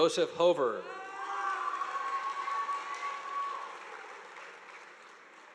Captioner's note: audience applauding